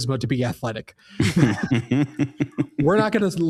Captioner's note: laughing